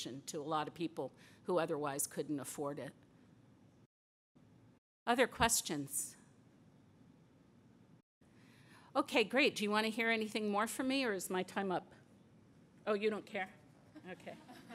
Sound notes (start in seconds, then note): 6.2 silence